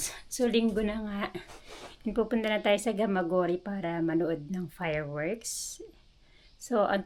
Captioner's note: sighs